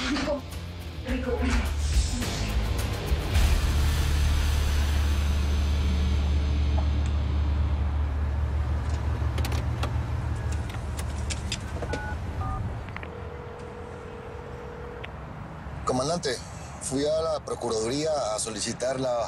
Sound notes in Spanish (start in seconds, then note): 12.9 Sonido al marcar